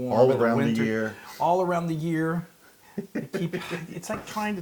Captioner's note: laugh